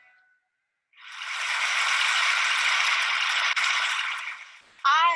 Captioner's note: applause